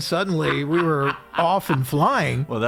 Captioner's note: laughing